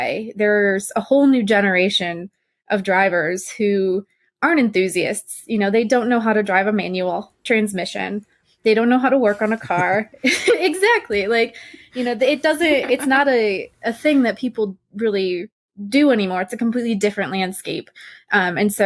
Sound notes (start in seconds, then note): 9.2 laughter